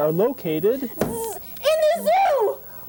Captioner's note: buzzer